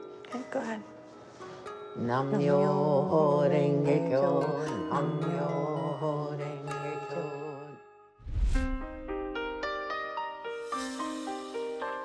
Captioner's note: chanting in foreign language